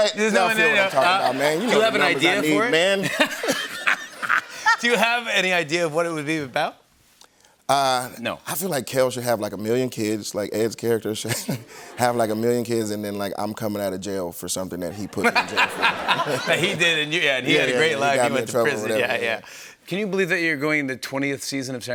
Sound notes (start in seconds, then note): 3.0 laughter; 14.9 laughter